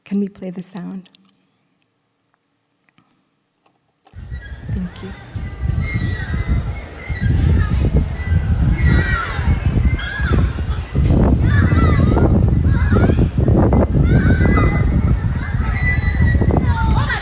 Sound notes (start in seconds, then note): 4.1 wind, a squeaking swing, children laughing , playing, and talking